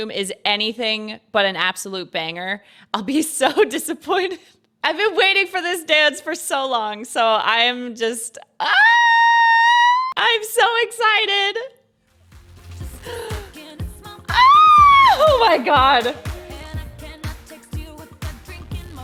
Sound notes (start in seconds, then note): 13.0 gasps; 14.1 squeals